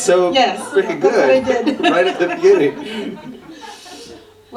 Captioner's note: laughter